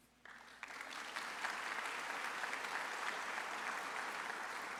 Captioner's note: audience applauds